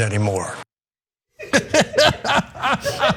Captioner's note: laugh